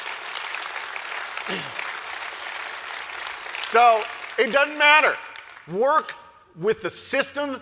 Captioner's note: applause